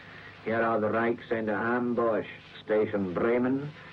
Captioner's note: speaking German